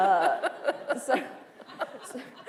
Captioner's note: laughter